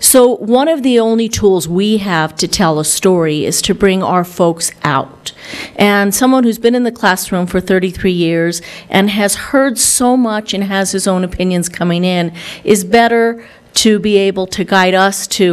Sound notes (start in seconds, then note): none